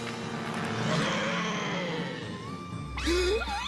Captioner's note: rabbit Growling; inhaling